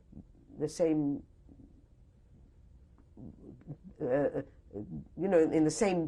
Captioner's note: pauses for 3 seconds